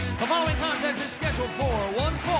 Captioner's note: bell ringing